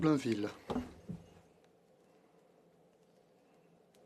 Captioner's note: speaking French